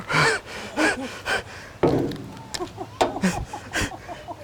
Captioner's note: woman laughing